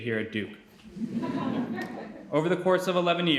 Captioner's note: audience laughing